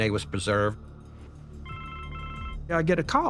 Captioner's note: phone rings